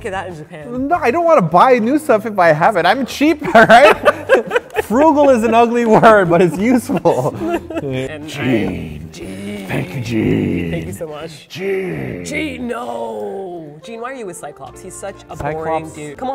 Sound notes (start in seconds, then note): 7.9 deep voice